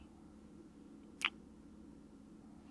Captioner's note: kiss